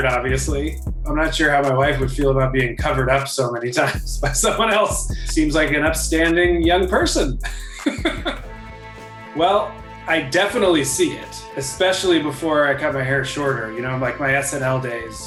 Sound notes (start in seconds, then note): 0.0 trap beat; 2.3 laughs